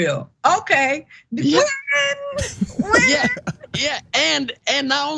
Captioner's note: laugh